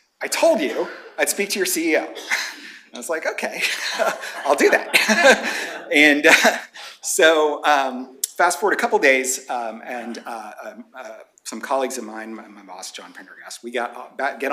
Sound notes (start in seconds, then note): 3.5 laughs